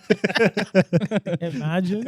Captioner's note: laughing